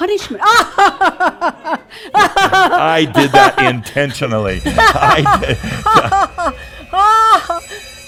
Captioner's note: laughs; bells and buzzers go off and Adamus chuckles; continues laughing